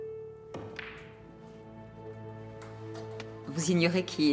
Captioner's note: balls clacking